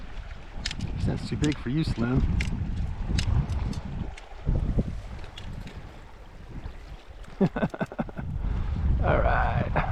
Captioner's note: laughing